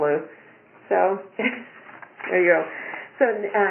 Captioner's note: chuckles